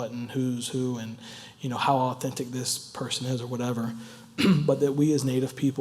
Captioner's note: cough